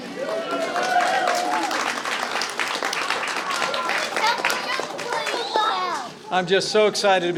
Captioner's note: applause